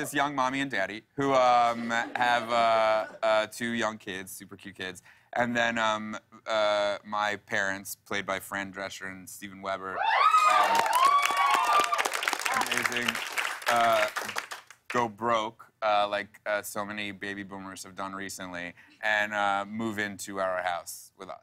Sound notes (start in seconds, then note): 10.0 cheers and applause